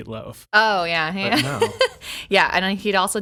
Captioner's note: laughing